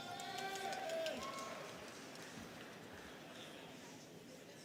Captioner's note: students cheering